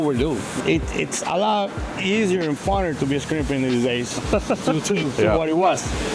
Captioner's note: laughs